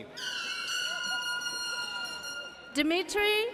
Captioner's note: audience cheers